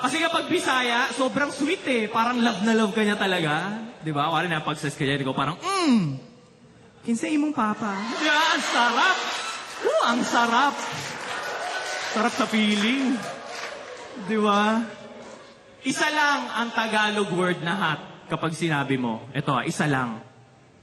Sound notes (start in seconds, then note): 11.1 laughter